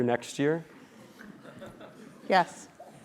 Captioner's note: laugh